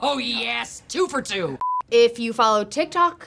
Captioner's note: beep